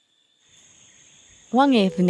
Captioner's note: blank Audio